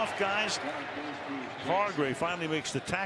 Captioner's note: pa announcement